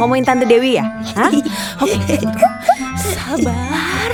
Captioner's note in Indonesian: tertawa